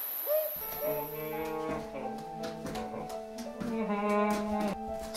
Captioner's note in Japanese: 鼻歌